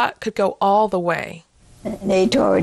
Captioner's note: soundbite of archived recording